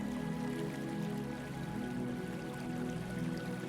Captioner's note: water trickling